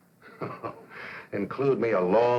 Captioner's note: chuckling